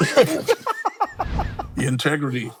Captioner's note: laughing